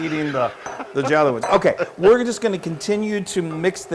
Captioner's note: laugh